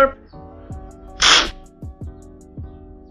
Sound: slurping sound

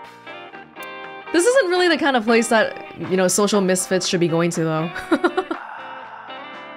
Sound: chuckles

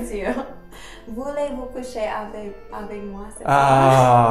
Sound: speaks French

